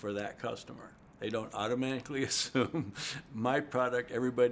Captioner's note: laughs